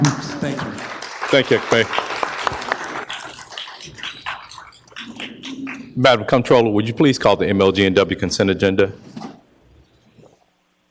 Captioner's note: applause